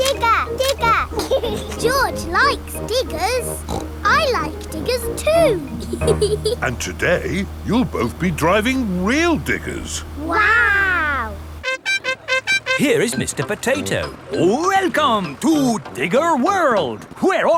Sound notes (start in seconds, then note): 0.0 laughs; 3.3 snorts; 4.0 laughs